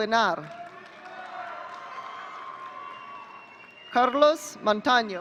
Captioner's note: audience cheering